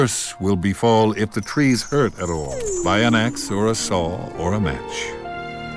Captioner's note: none